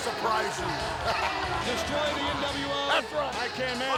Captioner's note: presenter speaking faintly off mic